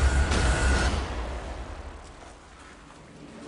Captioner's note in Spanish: Disparos